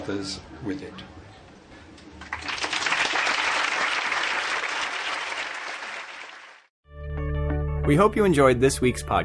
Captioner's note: applause